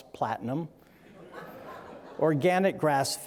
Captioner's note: audience laughing